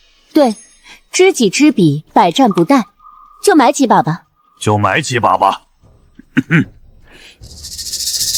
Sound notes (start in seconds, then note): 6.2 cough cough